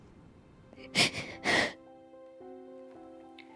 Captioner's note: sobbing; lighthearted music